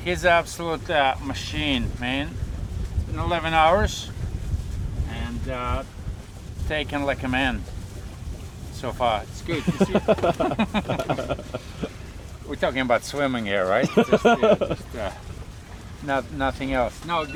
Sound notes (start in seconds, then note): 9.5 laughter